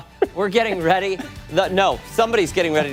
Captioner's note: laughter